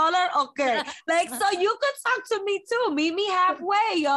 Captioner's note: laughing